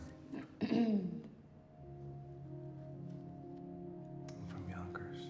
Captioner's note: Betsy clears throat